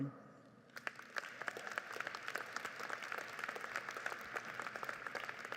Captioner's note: audience applauds